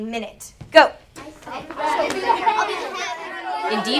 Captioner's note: students talking and working